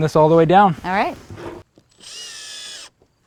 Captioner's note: drill whirring